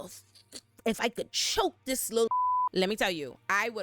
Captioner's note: beep